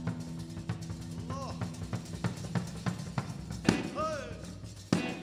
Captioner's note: exclaiming